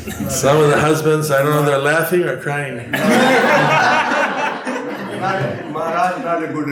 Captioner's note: laughter